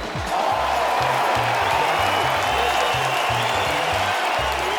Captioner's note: crowd cheers; upbeat music